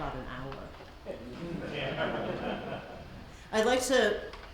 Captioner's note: audience laughs